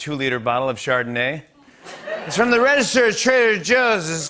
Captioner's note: slurred